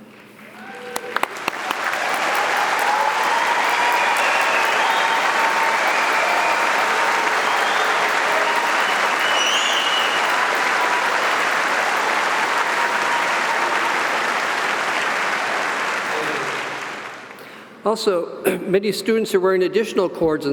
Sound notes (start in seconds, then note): 0.1 audience applauding